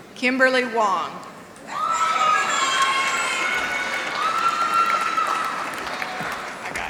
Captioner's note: applause